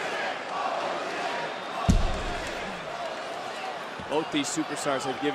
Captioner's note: crowd chanting